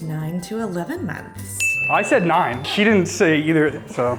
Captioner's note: bell dings